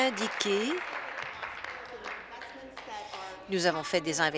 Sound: applause

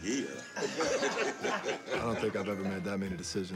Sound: laughter

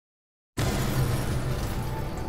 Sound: light explosion; slow inspiring music

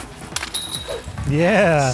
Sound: basket chiming

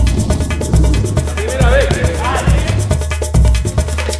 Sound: fast jazzy music; players calling out to each other in Spanish; fast jazzy music

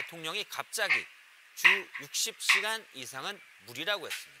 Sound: YouTube sound

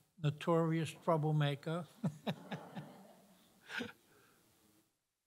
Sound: laughter

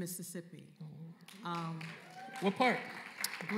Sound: applause

